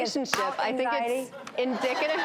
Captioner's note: audience laughing